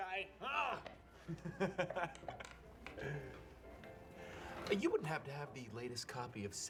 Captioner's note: chuckles, clears throat; laughs